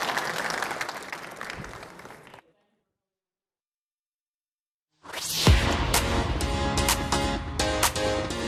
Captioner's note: applause